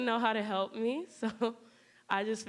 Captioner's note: chuckling